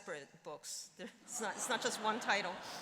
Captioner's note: laughter